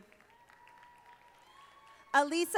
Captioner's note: audience applauding